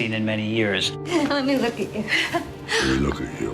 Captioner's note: laughing